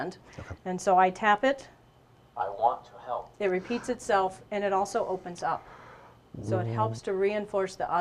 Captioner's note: device speaking: I want to help